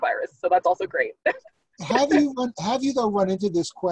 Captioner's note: laughs